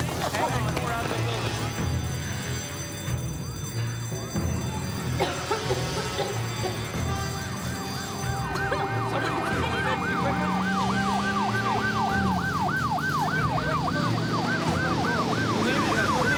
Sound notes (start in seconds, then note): 1.6 alarm; 5.0 cough; 6.0 alarm